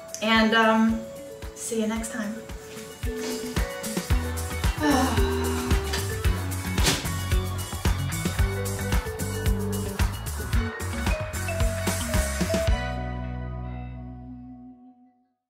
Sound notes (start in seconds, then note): 4.6 sighs; 6.9 upbeat music